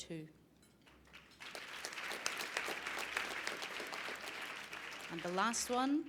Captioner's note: applause